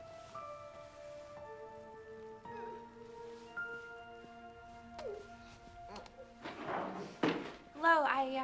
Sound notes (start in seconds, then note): 2.8 woman sobs; 6.6 crying